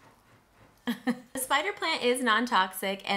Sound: chuckles

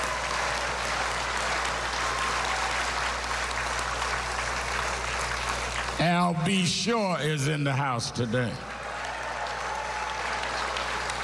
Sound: cheers and applause

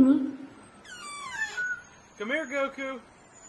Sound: whistles

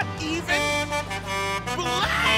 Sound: truck horn

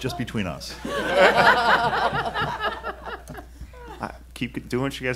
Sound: laughing

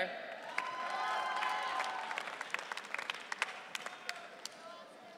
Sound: audience cheering

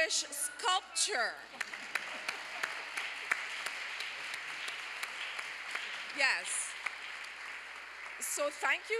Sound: applause

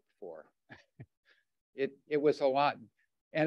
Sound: chuckles

